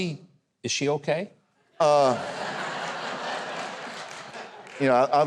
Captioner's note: audience laughs